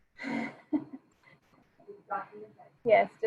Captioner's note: laughing